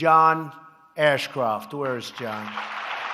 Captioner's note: applause